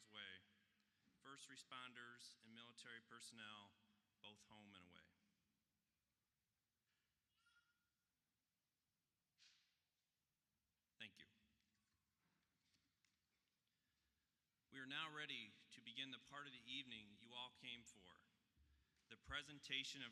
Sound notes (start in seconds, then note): 6.8 pause……a moment of silence